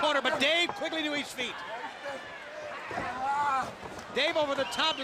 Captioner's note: crowd chatter